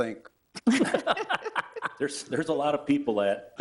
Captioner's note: laughter